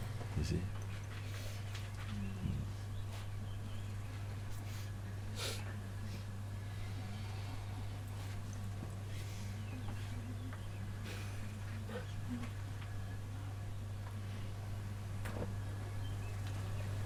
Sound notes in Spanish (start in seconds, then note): none